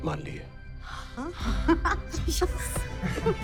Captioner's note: all giggling